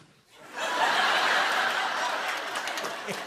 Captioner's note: laughter; applause